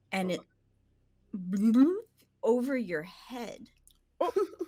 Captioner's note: mimics air bubbling